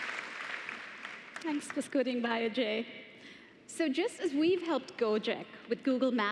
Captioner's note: applause